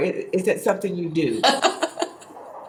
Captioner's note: laughs